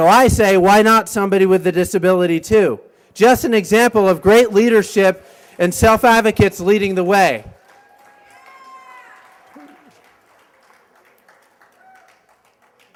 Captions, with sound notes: SO I SAY, WHY NOT SOMEBODY WITH A DISABILITY, TOO? JUST AN EXAMPLE OF GREAT LEADERSHIP AND SELF-ADVOCATES LEADING THE WAY. [cheers and applause]